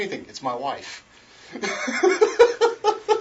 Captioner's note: laughs